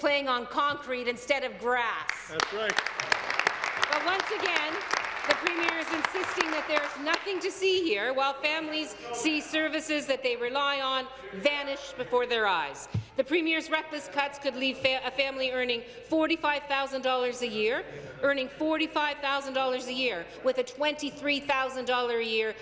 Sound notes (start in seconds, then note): 6.9 applause